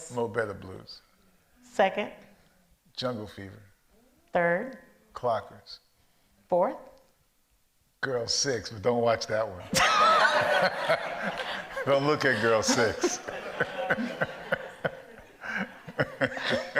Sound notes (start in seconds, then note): 9.7 all laugh; 14.1 laughs